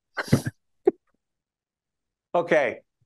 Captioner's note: laughing